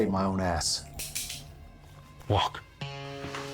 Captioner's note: gun clicking